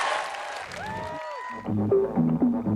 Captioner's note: cheering